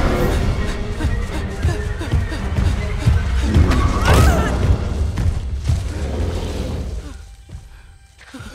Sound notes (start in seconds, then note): 3.7 yells